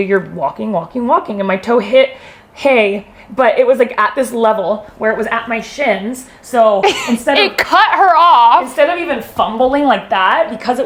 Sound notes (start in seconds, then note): 6.8 laughs